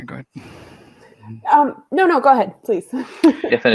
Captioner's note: laughs